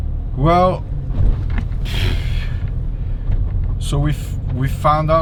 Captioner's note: blowing raspberry